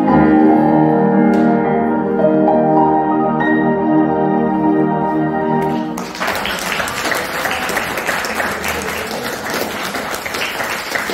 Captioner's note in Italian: Applauso